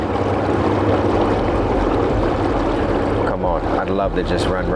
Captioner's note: river babbling; engin idling